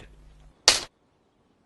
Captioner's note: snap